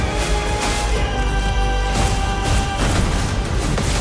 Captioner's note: thunderous combat